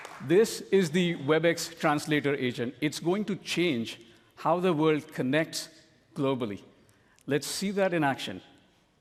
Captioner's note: cheering and applause